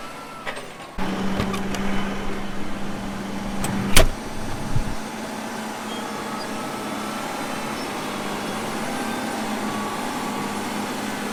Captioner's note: tractor sound